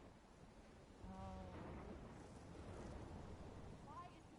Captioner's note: thunder and lightning